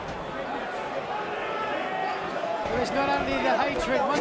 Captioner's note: crowd chatter